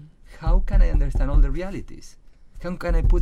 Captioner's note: bangs on table